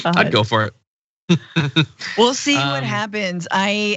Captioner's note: laugh